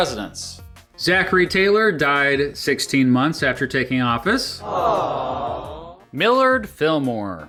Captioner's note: awww sound effect